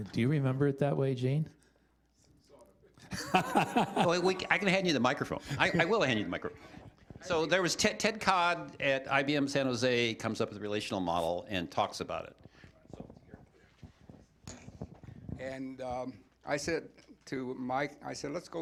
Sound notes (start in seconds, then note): 3.1 laughter